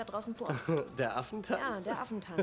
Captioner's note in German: lacht